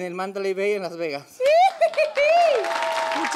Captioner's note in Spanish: Ríe